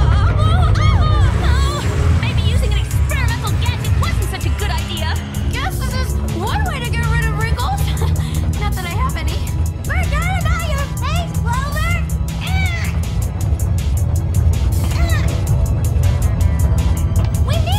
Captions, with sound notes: Oh! Maybe using an experimental gadget wasn't such a good idea. Guess this is one way to get rid of wrinkles. [chuckles] Not that I have any. Forget about your face, Clover. [Alex grunting]